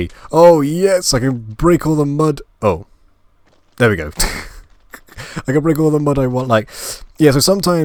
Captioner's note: laugh